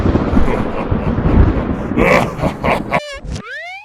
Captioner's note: maniacal laughter